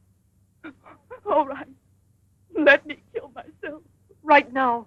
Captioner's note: sobbing